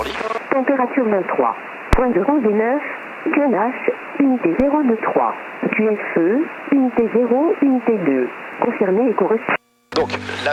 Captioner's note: ATIS voice